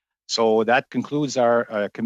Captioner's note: speaking French